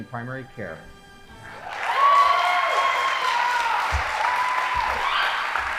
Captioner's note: audience applauding